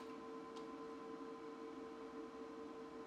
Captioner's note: none